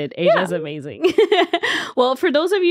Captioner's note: laughing